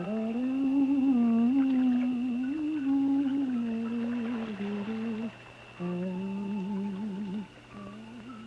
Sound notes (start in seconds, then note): 4.0 water splashing